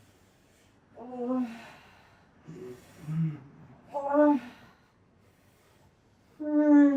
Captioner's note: moaning